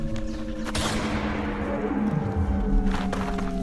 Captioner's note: gunshot in the distance